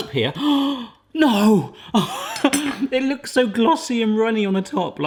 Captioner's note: laughs